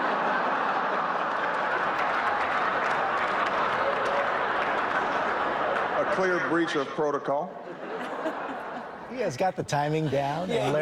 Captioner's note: laughter